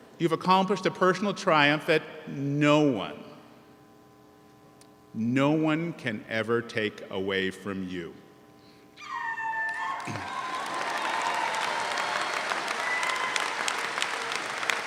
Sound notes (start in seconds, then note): 10.0 man hollers; 11.7 audience applauds